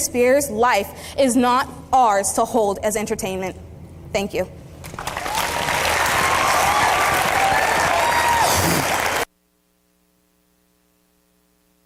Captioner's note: applause